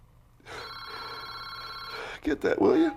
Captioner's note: phone ringing